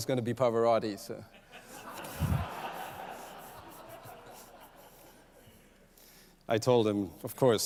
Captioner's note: laughter